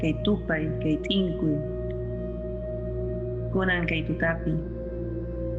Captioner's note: person speaking in foreign language